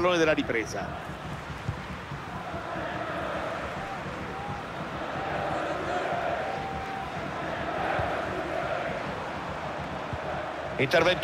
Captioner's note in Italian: Applauso